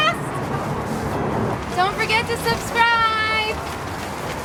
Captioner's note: whoosh